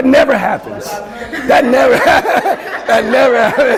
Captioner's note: laughter